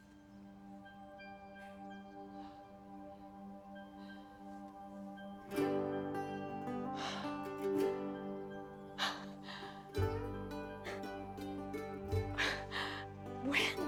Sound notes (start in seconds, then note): 7.0 marie gasps; 11.4 chuckles